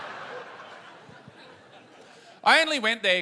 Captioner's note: laughter